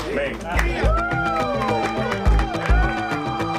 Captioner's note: team cheering